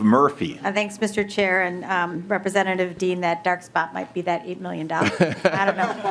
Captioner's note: laughing